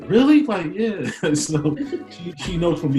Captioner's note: laughs